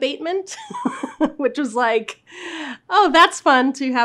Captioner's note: laughs